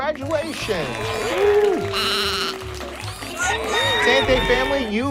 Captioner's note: animals applauding